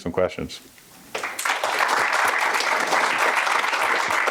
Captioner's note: applause